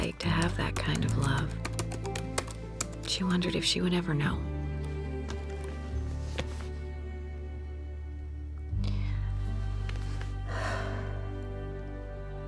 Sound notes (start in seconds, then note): 6.2 laptop closes; 10.5 sighs